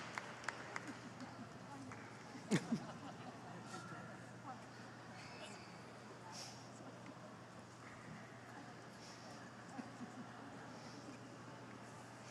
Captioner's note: applause